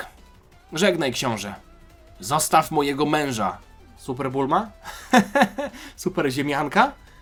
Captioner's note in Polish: śmiech